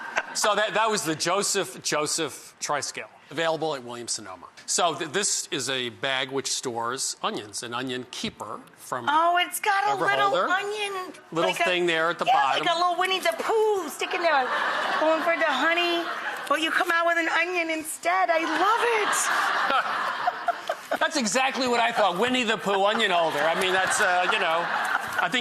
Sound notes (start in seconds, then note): 18.4 laughter